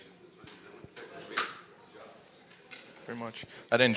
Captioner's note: speaking faintly